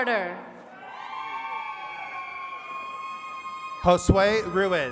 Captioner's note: attendees cheering